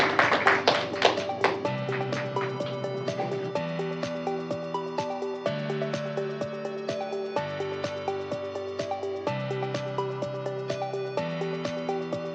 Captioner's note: applause